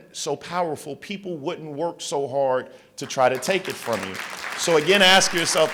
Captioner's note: applause